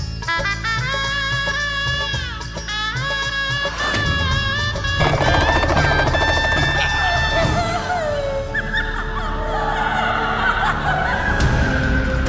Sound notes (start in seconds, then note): 5.0 hooting; 9.3 giggles